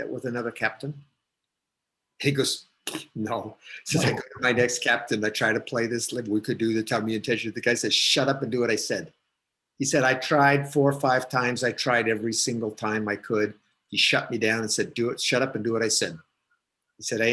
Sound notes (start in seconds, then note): 3.5 static audio